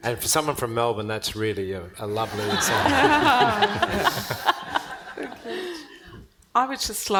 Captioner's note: panel and audience laughing